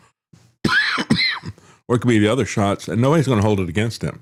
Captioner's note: coughs